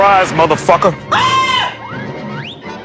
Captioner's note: Homer Scream